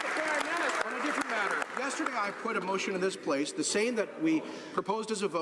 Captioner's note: some Applause